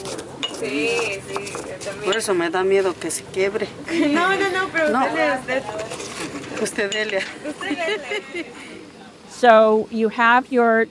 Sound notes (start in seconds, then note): 1.0 and translators speaking spanish